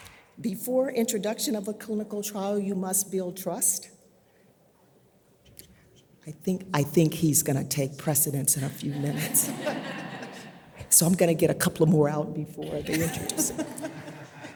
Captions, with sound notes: Before introduction of a clinical trial you must build trust. I think he's gonna take precedence in a few minutes. (audience laughs) So I'm gonna get a couple of more out before they introduce him.